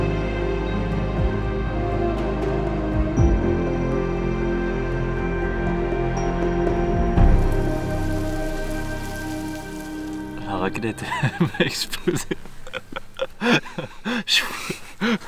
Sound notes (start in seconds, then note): 10.4 laughs